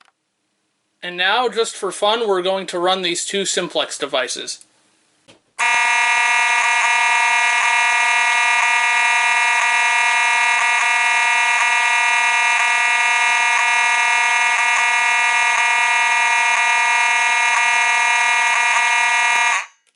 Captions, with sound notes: And now, just for fun, we're going to run these two Simplex devices. [Continuous electric horn chord with the same interrupting pattern as before.]